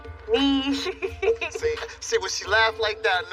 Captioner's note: laughs